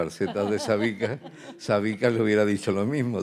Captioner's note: laughing; speaking in Spanish